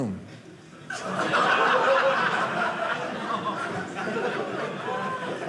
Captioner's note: audience laughing